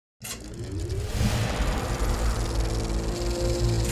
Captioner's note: film reel whirring